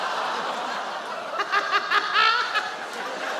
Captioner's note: sarah laughs